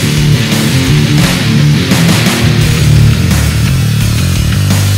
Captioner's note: power tool grinding